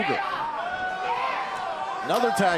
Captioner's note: crowd cheering